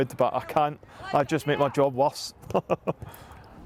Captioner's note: chuckles